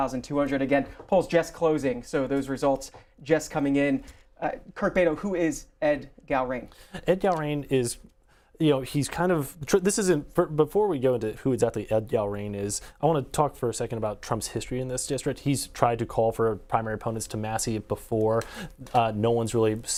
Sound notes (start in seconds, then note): none